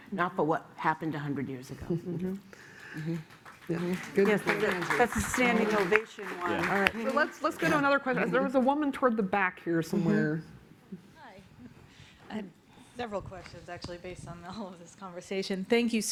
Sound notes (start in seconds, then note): 2.7 applause